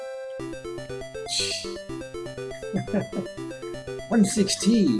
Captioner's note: level up fanfare; chuckles